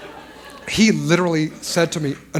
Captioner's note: laughter